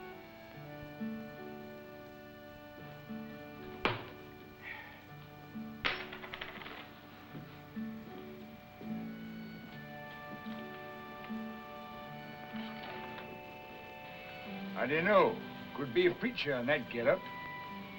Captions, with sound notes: [CLATTERS] How do you know? Could be a preacher in that getup.